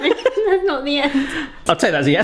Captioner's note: both laughing